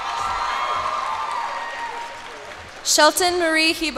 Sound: cheers and applause

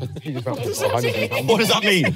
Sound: everyone laughing

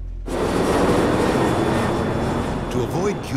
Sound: plane engine roars

